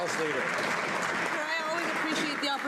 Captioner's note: some Applause